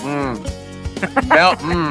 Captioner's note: laughs